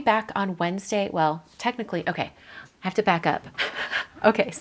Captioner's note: laughs